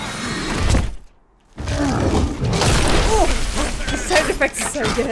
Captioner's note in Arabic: شخير داريوس وتدحرجه